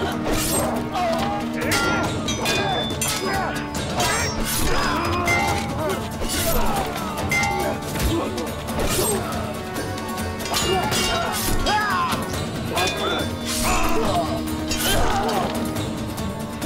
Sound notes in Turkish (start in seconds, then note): 0.4 İnilti sesi; 5.1 Kılıç sesleri; 5.1 Müzik - Aksiyon; 14.7 İnilti sesi